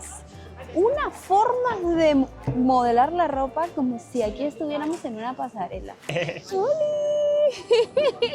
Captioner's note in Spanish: risas